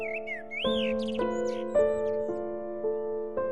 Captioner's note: birds twittering